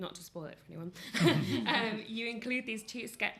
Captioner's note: laughter